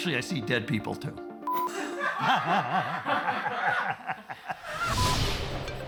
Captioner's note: laughs